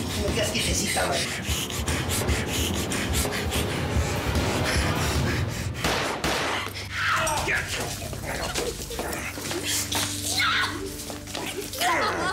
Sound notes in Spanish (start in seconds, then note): 5.8 Disparos